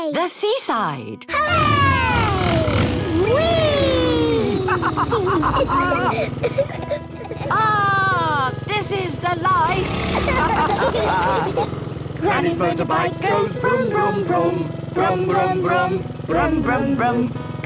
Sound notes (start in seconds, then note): 5.1 laughs